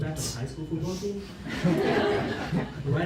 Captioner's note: laughter